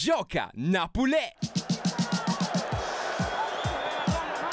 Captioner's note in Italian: Applauso